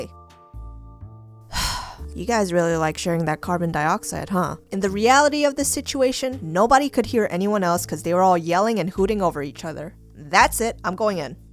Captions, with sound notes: *sigh*You guys really like sharing that carbon dioxide huh? In the reality of the situation nobody could hear anyone else cuz they were all yelling and hooting over each other. That's it I'm going in!